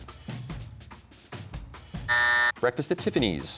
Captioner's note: buzzer sounds